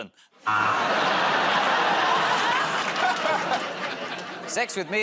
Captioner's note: laughter, buzzer